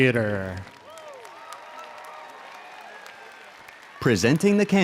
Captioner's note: audience applauds